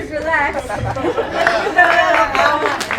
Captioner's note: applause